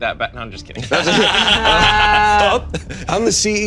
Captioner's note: all laughing